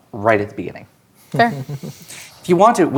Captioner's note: chuckling